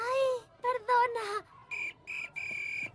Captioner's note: whistle blowing